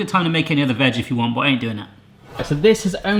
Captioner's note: whooshing